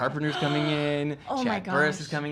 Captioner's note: gasp